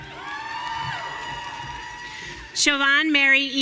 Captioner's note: audience cheering